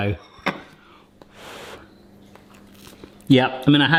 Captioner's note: blows